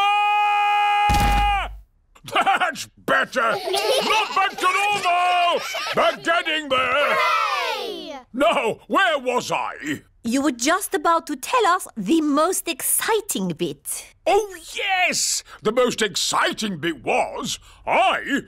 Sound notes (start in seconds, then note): 0.3 shouts; 1.1 thudding; 3.4 chuckles; 3.4 children giggling